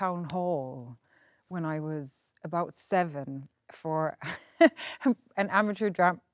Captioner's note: laughs